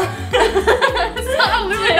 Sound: giggles

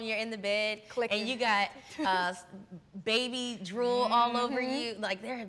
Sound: chuckles

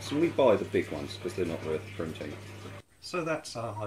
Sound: water trickling

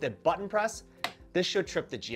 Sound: click

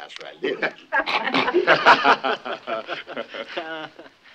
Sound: crowd snickering

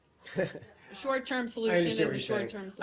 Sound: laughter

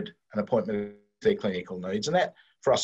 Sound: audio distorts

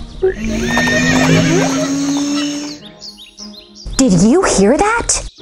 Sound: humming and dancing; horses galloping

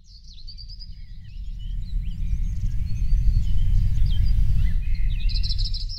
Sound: birds tweeting

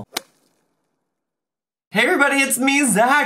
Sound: stick smacking

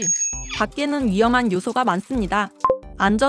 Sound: ding Dong

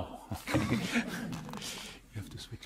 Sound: group laughing

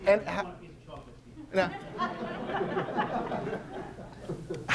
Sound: audience laughing

